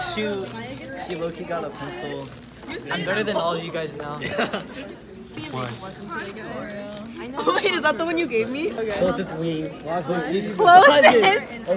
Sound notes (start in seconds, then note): 4.7 laughs